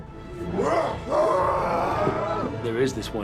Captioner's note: all growling